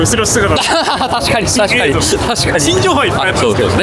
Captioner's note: laughs